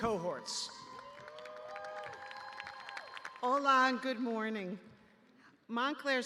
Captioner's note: cheers; applause